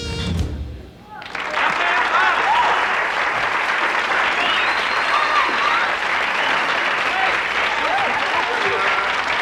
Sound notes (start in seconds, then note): 1.0 audience applauding